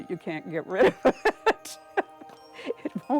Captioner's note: laughs